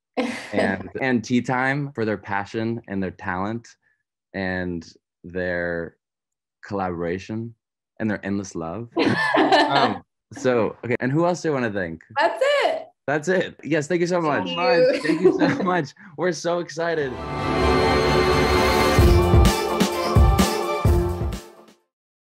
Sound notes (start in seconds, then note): 9.0 laughing; 14.3 laughs; 16.9 soft upbeat music